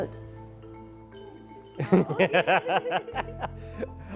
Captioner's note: both laugh